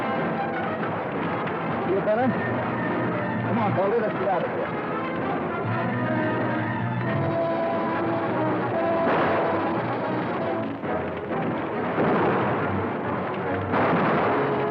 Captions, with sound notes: - Feel better? Come on, Baldy, let's get out of here. (dramatic music) (guns firing)